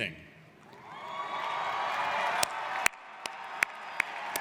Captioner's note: applauding